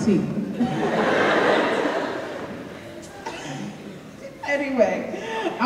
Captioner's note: audience laughing